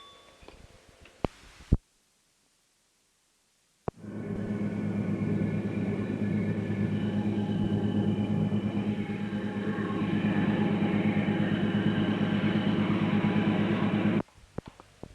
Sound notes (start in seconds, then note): 3.9 sound of train moving